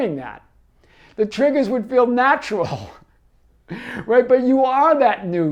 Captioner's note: laughing